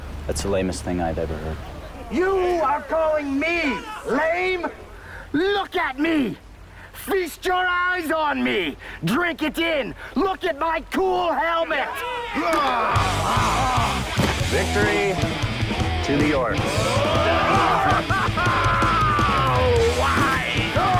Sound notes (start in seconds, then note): 12.6 cheering; 20.8 cheering